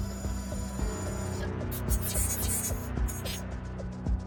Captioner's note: radio bleep and static; robotic sounds